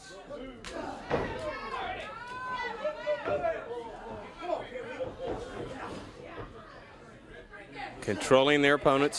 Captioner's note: crowd cheering